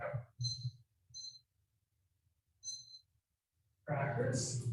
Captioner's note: timer beeping